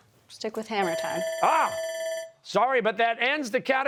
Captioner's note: bell ringing